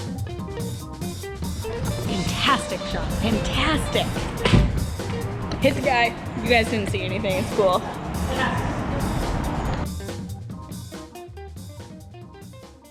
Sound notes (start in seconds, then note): 4.2 knocks something; 10.1 upbeat music